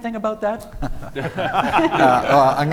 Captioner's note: panellists laughing